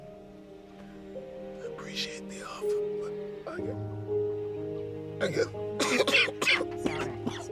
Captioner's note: coughing